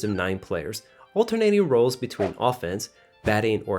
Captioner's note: batting or hitting the ball